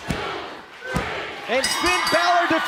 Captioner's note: bell ringing